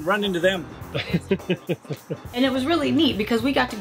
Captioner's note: chuckles